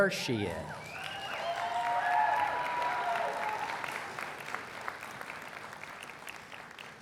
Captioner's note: cheers and Applause